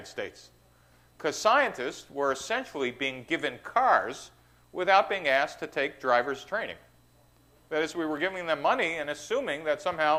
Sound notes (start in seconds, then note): none